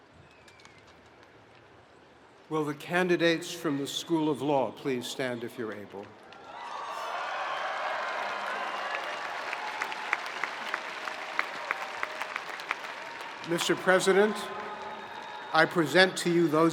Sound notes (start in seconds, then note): 6.6 spectators cheering; 7.9 spectators applauding